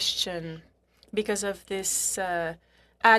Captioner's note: speaking French